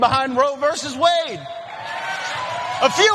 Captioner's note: applause